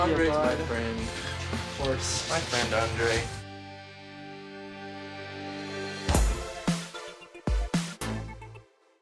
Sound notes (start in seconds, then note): 6.1 swishing sound; 6.1 upbeat music